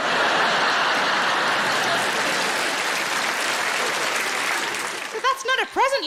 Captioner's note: audience laughing and applauding